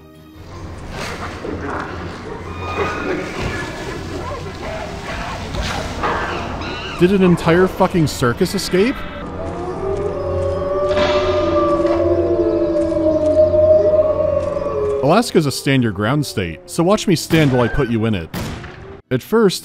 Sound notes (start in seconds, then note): 0.2 agitated animal sounds, including those that don't belong in Alaska; 9.3 howling of wolves